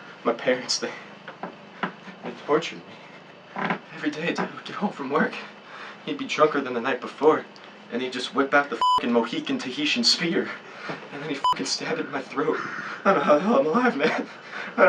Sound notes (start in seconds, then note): 8.8 beeping